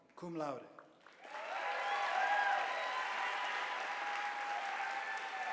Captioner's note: audience applauding